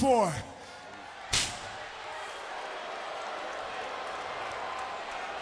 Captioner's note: crowd clamoring